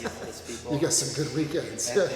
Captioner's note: laughs